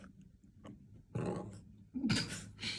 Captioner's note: sound of digestion; burp